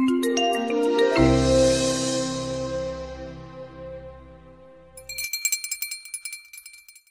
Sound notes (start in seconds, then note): 0.0 bright music; 5.0 bell ringing